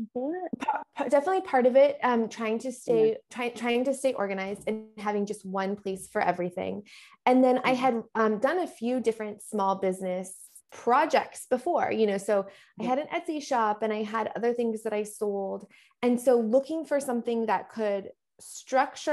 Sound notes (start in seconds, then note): none